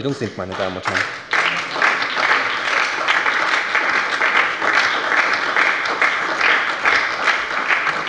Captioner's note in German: Beifall bei der SPD